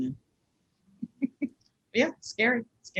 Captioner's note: laughs